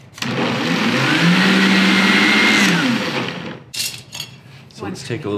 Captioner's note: blender whirs